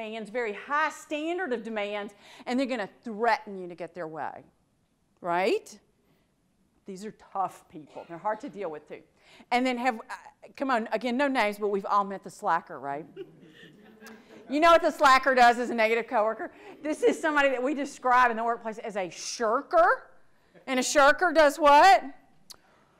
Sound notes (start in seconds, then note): 13.2 audience laughs